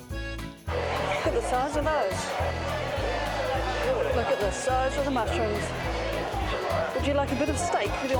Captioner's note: crowd noise